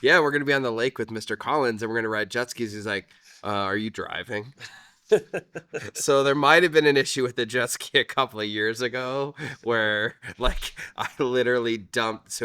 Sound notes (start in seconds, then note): 5.1 laughing